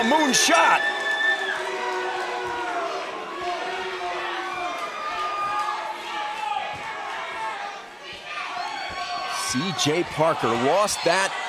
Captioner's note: crowd cheering